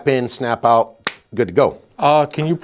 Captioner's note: claps hands